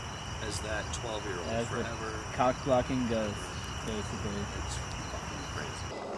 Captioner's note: as that cock-blocking ghost